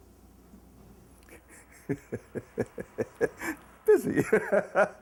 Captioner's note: chuckles